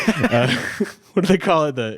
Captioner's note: everyone laughs